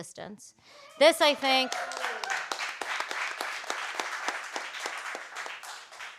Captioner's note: audience applauding